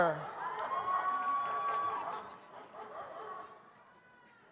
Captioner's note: audience cheers